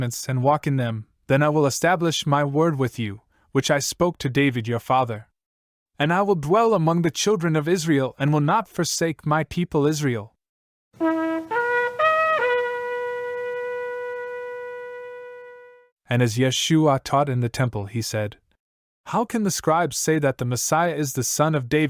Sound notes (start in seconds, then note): 14.4 shofar blast